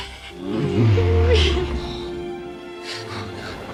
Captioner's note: dinosaur groans